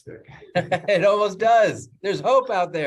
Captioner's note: laughs